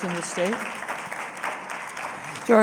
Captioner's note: applause